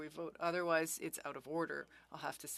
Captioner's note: speaking French